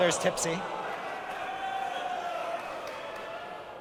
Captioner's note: audience voices disagreement